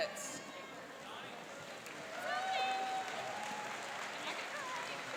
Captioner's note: cheering and applauding